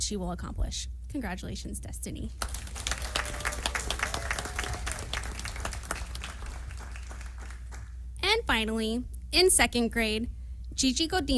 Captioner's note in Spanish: aplausos